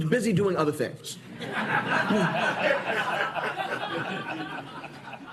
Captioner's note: laughter